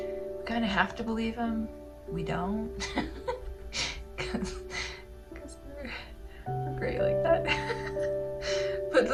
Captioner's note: laugh